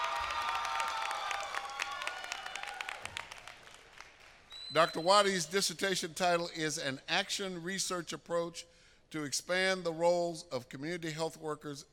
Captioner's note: applause